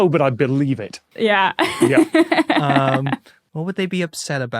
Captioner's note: laughs